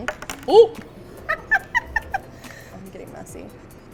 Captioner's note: laughs